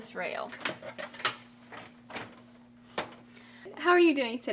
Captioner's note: clanking of bed rail